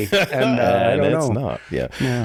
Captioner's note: chuckles